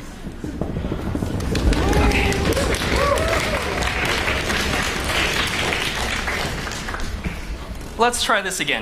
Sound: applause

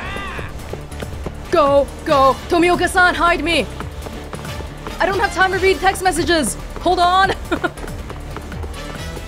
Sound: chuckles

